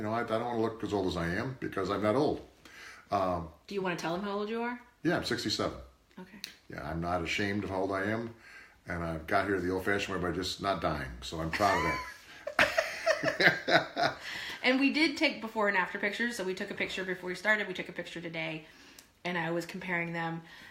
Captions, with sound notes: I don't wanna look as old as I am because I got old. - Do you wanna tell them how old you are? - Yeah, I'm 67. - Okay. - Yeah, I'm not ashamed of how old I am and I got here the old-fashioned way by just not dying so I'm proud of that. (laughter) - And we did take before and after pictures so we took a picture before we started, we took a picture today and I was comparing them